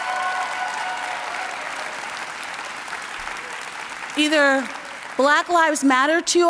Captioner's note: applause